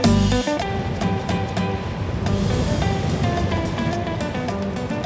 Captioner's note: waves rumbling